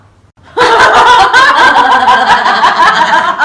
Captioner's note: laughter